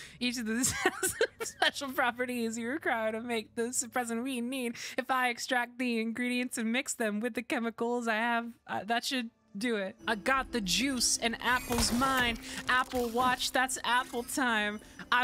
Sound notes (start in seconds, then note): 0.1 spoken Rhythmically